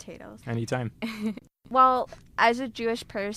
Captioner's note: laughing